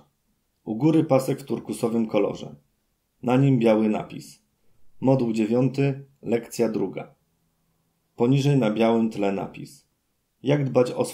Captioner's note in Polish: Głos męski z offu, audiodeskrypcja planszy